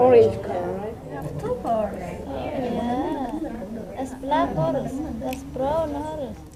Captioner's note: background chatter